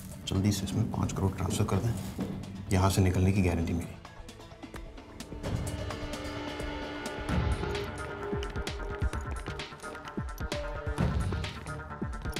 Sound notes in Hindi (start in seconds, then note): none